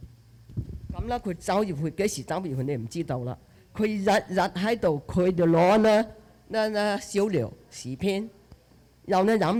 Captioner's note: speaking Chinese dialect